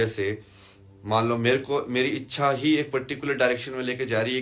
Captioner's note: नाक से की जाने वाली आवाज़